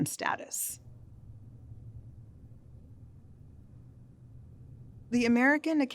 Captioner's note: silence